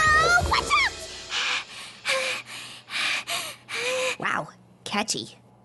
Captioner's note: breathing heavily